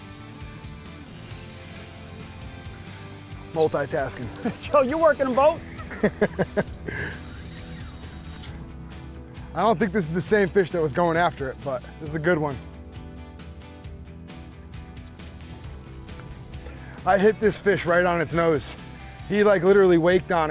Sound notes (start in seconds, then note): 7.5 laughs